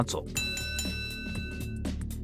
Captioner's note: Smackdown bell sound